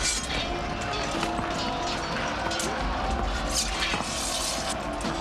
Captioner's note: crowd roaring